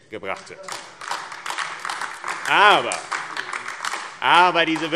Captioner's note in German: Heiterkeit und Beifall AfD